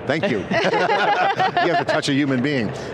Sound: all laughing

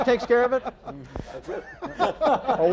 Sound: laughter

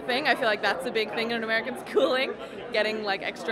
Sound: giggling

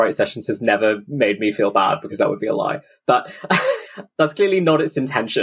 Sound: laughs

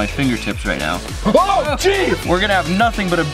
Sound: yelling

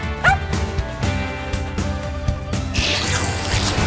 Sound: Murph barks

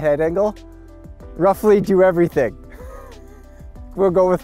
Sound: chuckles

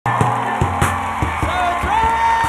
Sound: audience cheers and applause

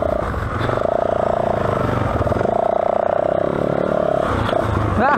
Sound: engine revving

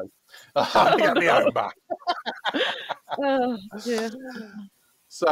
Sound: laughter

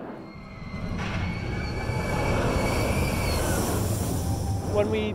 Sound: passengers scream

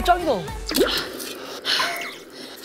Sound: gasping

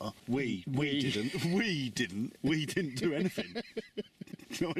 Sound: laughs

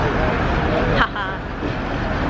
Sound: laughs

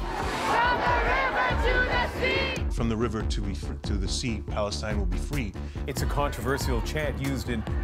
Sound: chanting

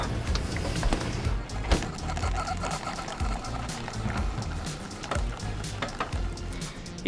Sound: coffee brewing

